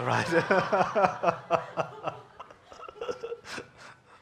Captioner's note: audience laughing